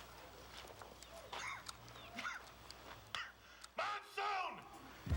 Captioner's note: cough